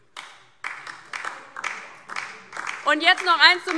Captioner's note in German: Beifall DIE LINKE und vereinzelt SPD